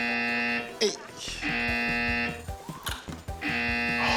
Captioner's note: buzz!; buzz!